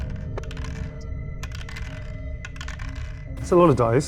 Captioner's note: die rattles